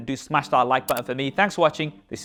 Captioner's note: like button clicks